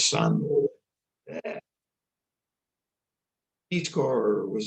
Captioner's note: gags